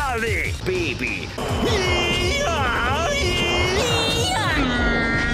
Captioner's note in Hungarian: autista sikoltás